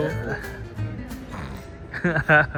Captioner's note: slurps